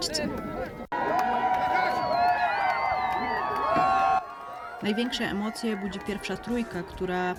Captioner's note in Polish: Aplauz